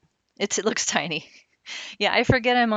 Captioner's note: laughing